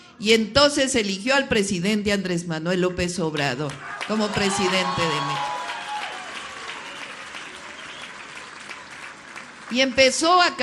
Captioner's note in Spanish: aplausos